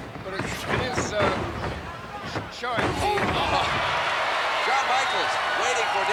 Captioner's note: footsteps plodding; body thudding